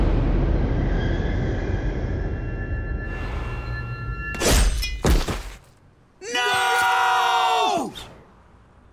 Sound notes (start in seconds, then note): 4.4 thudding